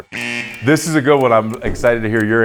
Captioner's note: buzzer buzzing